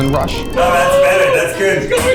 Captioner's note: screaming